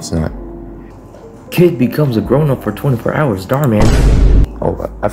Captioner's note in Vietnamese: Vine boom